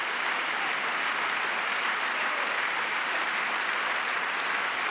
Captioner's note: applause